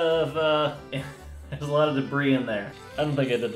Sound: chuckle

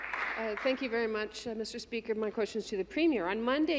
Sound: some Applause

